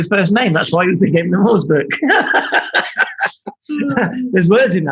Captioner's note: laughing